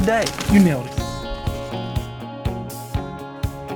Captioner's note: whispering